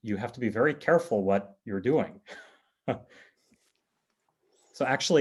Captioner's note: chuckles